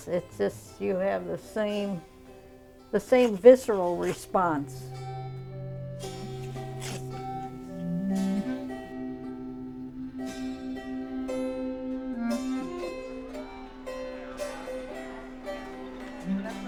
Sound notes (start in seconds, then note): 4.8 crowd sound